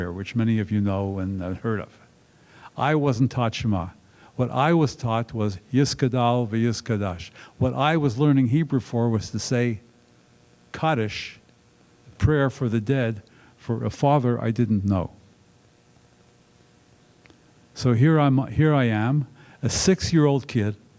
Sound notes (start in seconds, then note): none